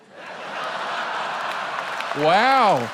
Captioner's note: laughter